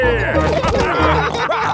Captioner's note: all laughing